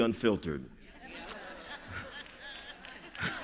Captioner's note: laughter